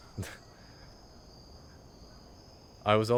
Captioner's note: chuckles